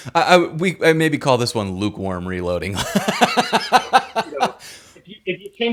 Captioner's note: laughs